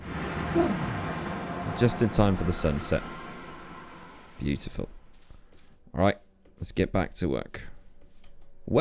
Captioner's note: sigh of relief